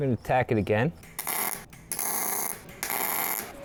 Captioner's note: drilling